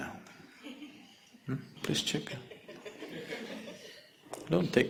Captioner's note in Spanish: el público se ríe